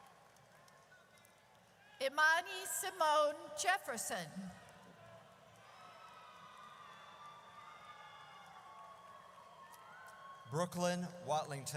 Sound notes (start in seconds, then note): 5.6 audience cheers